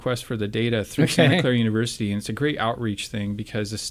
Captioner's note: laughs